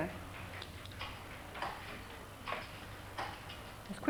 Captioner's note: sound of typing